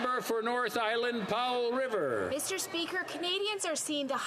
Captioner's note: some Applause